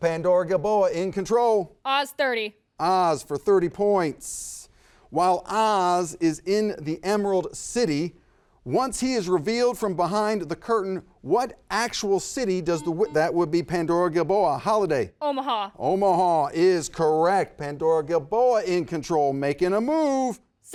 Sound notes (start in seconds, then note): 12.8 buzzer buzzes